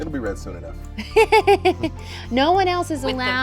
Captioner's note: laughing